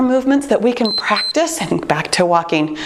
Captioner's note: timer beeps